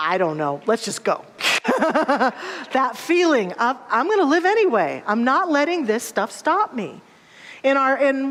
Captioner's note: laughter